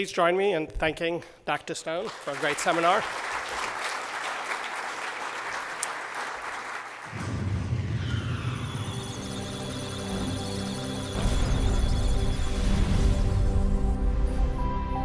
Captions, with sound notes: So please join me in thanking Dr. Stone for a great seminar. [applause] [musical tones] [electronic sounds of data]